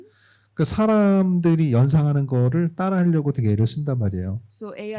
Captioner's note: speaking korean